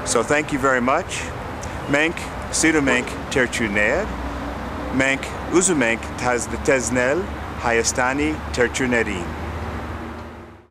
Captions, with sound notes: So thank you very much. [ARMENIAN]